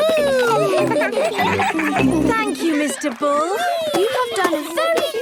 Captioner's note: giggling